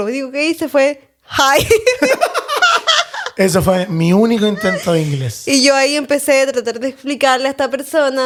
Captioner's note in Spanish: risas